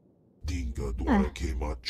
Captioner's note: non-english speech